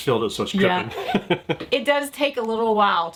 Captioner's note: laughs